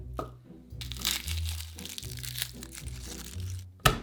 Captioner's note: garlic paper rustling